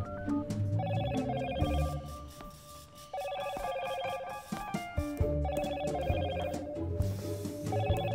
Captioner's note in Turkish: Telefon zili sesi